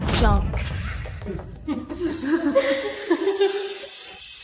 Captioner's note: giggling